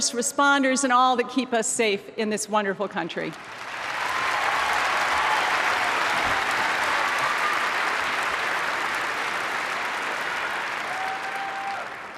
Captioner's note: applause